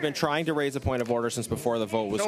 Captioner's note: conversation din